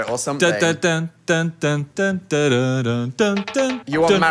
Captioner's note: mimicking music